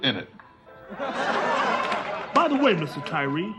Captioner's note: audience laughs